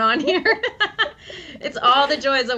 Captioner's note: laughs